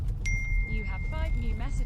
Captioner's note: Keo’s phone message alert chimes